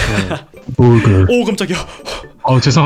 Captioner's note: genuinely startled